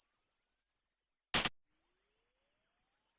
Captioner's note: camera flash